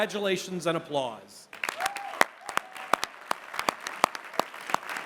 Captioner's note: applause